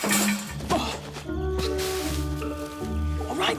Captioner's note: Hal grunts